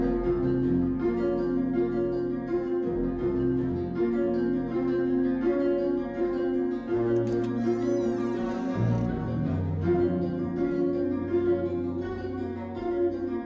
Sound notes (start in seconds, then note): 7.1 door creaking; 9.6 dramatic orchestral music